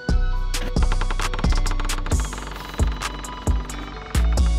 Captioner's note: door Creaks Open